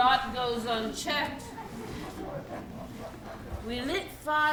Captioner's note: audience laughing